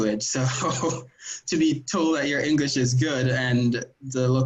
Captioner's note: chuckles